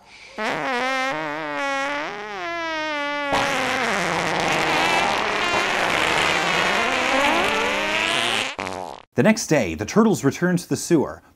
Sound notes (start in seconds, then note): 0.2 flatulence; 3.3 flatulence x2; 4.5 flatulence x4; 5.5 flatulence x8; 6.7 flatulence x16; 7.4 flatulence x32; 8.0 flatulence x64; 8.5 toot